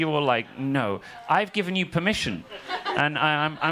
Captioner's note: audience laughing